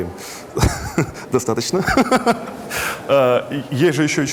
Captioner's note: laughs